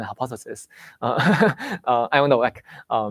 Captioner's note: laughs